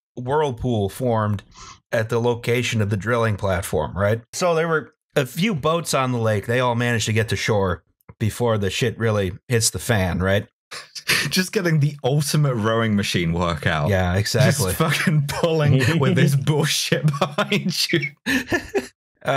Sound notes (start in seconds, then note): 15.4 laughing; 16.8 laughter